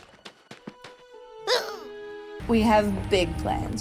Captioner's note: Ruby grunts